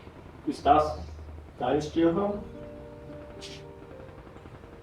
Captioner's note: speaking in German